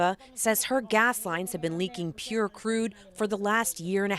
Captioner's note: speaking in spanish